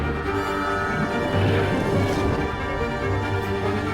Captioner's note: whooshing